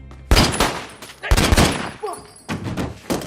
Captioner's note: gunshots